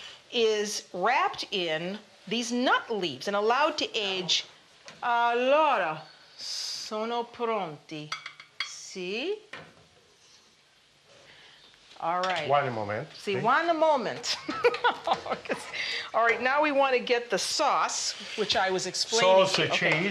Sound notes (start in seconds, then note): 4.9 speaking Italian; 14.3 laughter